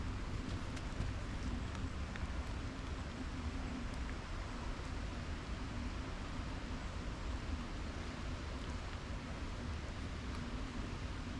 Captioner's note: rain falling on river surface; flowing water over rocks; soft rainfall in forest